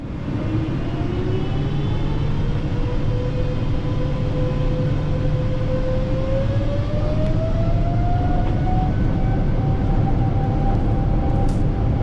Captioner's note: jet engine spool up